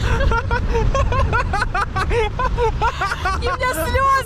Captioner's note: wild laugh